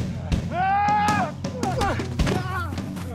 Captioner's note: yelling